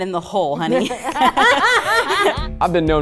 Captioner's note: everyone laughs